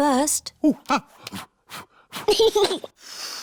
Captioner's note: blows; giggles and blows